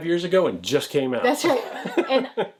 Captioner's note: laughs